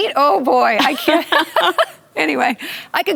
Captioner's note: laughter